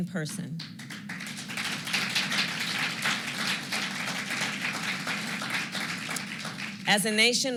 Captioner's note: applause